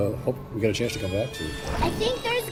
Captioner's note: water splashing